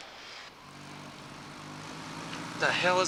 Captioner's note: motorbike rumbling